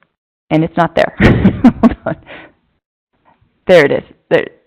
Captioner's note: laughing